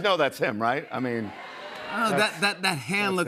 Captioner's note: crowd shouts "yes"